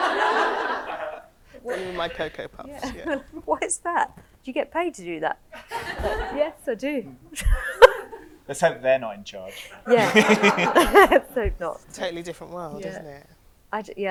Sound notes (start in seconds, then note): 0.0 audience laughs; 5.6 audience laughs; 7.9 group laughs